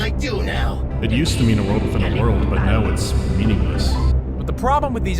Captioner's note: echoing